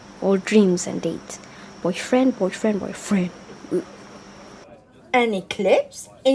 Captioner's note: under her breath